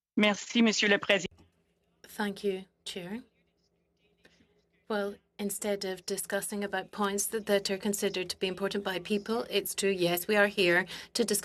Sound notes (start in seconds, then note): 5.2 speaking in French